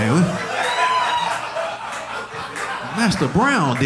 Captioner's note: audience laughing